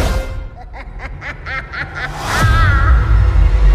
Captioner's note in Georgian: იცინის